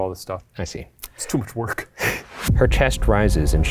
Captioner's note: chuckles